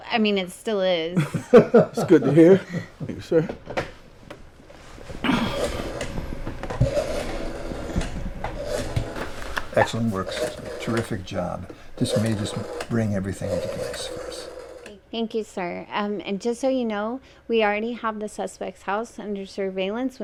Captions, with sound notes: I mean, it still is. (Lieutenant Henry laughs) - It's good to hear. Thank you, sir. (Ed clears throat) (phone dials shuffling and clacking) - Excellent work. Terrific job. This may just bring everything into place for us. - Thank you, sir. And just so you know, we already have the suspect's house under surveillance